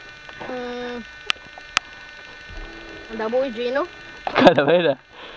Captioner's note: laughs